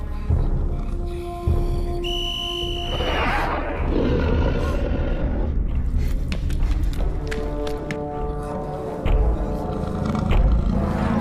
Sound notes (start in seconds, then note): 2.0 whistle blows